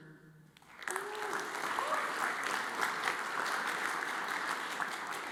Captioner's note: audience applauds